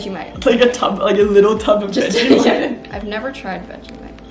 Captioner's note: laughs